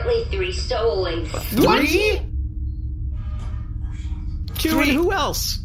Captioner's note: shouting